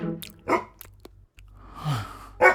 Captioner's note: dog barking